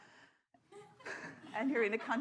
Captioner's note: scattered laughter